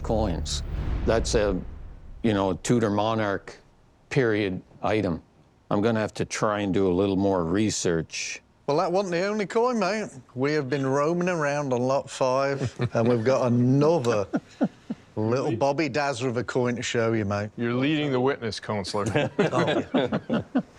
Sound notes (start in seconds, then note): 14.0 chuckling; 19.0 chuckling